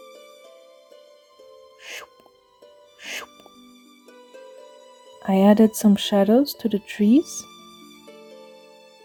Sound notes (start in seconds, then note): 1.8 shhoup